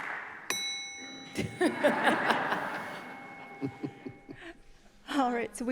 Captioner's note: laughter